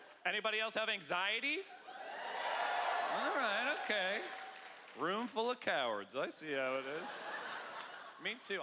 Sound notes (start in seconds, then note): 1.8 cheering